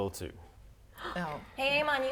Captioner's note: gasp